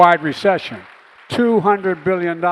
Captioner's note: applause